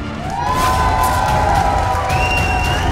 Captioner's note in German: Jubel, Applaus